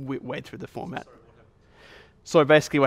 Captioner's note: voiceover